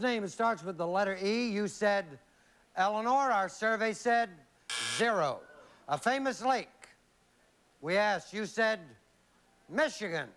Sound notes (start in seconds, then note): 4.7 buzz